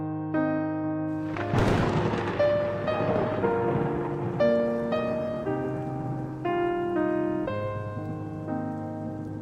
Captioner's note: thunder cracks